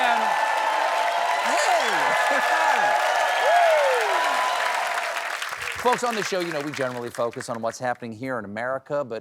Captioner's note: cheers and applause